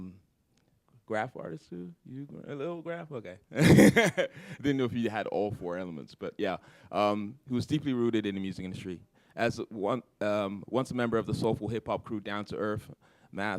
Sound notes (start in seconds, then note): 3.6 laughter